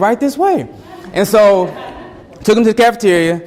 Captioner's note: students laugh